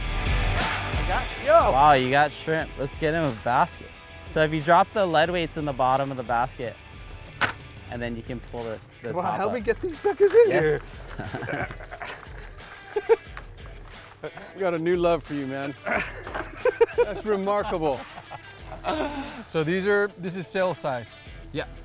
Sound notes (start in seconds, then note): 9.8 both laughing; 15.7 both laughing